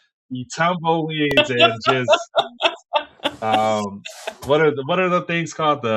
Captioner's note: laughing